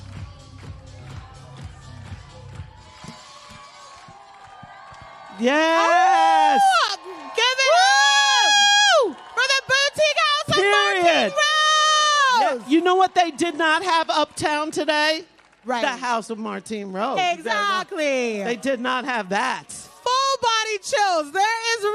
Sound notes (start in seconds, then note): 5.5 applause